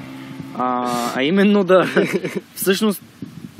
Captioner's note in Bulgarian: се засмива